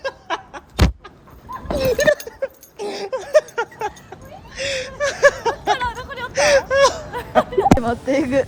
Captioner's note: bursts out laughing